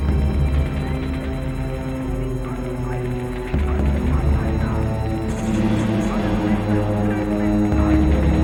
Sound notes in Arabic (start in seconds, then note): 3.5 الصوت المنطوق باللغة الألمانية